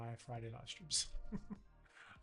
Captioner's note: laughs